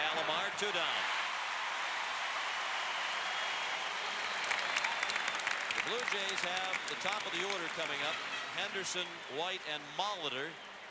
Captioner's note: applause